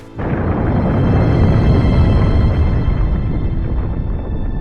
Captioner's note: explosion rumbles